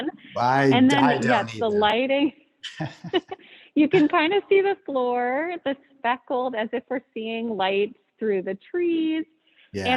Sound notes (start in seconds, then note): 2.7 laughs